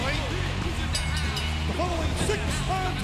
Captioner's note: bell ringing